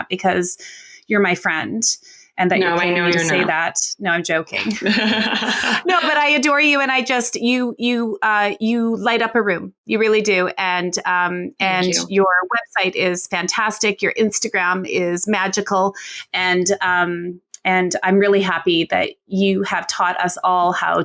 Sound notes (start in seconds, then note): 4.6 laughing